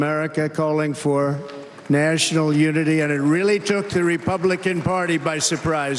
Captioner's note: cheers and applause